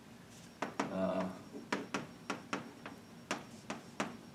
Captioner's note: chalk tapping